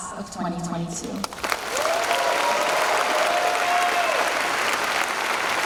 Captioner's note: cheers and applause